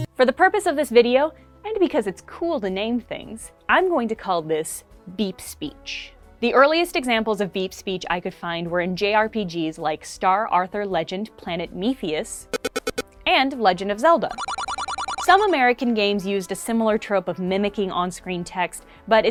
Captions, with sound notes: for the purpose of this video -- and because it's cool to name things -- I'm going to call this beep speech. The earliest examples of beep speech I could find were in JRPGs like Star Arthur Legend - Planet Mephius [short pattern of beeps] and Legend of Zelda [mid-pitch beeps] Some American games used a similar trope of mimicking on-screen text, but